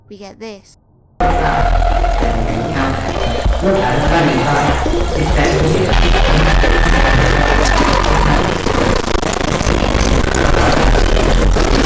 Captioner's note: glitchy sounds - similar to the 'breakdown sequence' from CYY